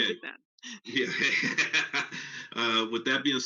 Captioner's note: laughs